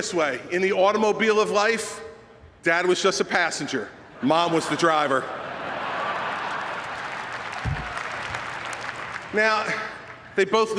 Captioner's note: laughter and applause